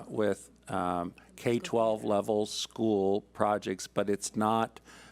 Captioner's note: speaks off mic